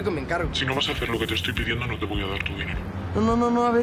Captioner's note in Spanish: voz distorsionada